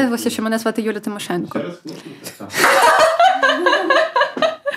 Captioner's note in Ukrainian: сміються